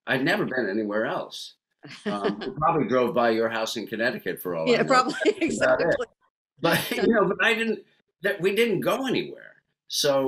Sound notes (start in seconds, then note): 6.6 laughs